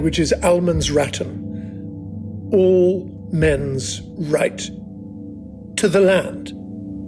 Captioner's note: speaks in Swedish